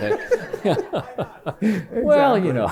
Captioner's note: laughter